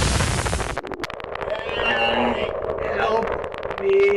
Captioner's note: moaning